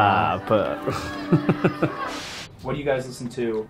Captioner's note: Justin laughing